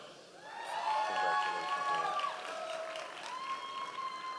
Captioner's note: audience applause